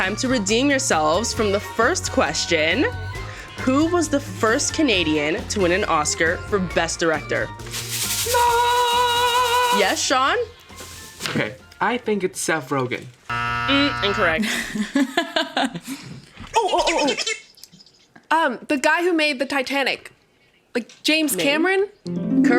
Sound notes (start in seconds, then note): 13.3 buzzer sounds; 16.4 laughing; 17.0 toy squeaks